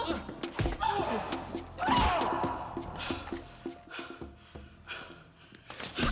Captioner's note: people groaning; blows thudding